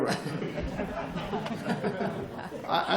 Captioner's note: laughter